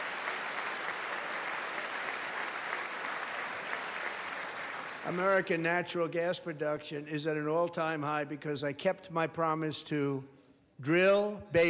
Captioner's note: applause